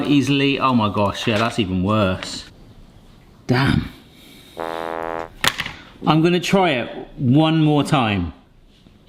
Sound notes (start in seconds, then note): 4.6 fail trombone honks